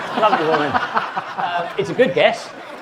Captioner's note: audience laughing; laughing